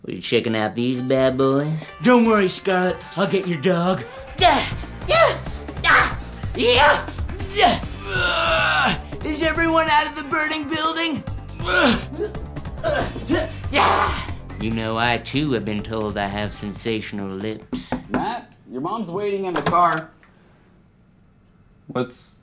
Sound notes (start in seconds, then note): 5.8 screams; 11.9 screams; 17.7 knocks on door